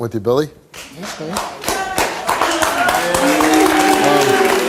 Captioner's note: audience applauds and boos